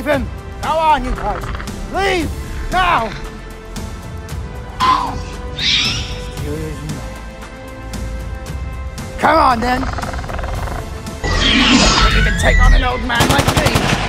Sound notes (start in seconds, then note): 4.8 raptor sounds; 11.2 velociraptor sounds; 13.1 shots Fired